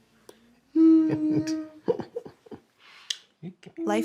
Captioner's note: moaning